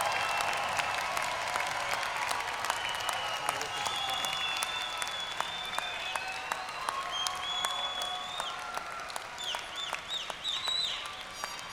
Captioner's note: applause